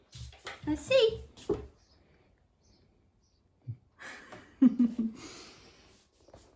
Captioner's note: laughs